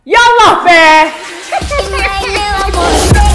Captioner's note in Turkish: Hıh hıh ıh+Müzik